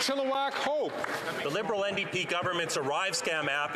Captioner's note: some Applause